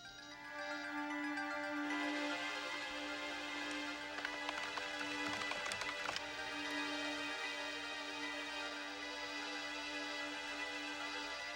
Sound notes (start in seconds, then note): 0.2 dramatic music; 4.0 keys clicking